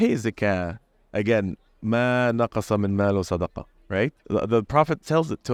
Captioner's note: arabic